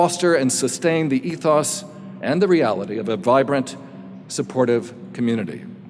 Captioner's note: none